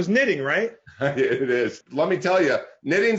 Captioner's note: laughs